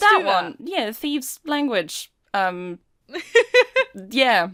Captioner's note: Rover laughs